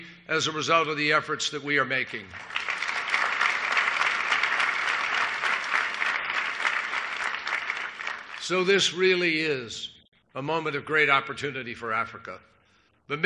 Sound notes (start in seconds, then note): 5.2 applause